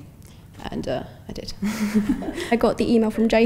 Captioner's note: chuckles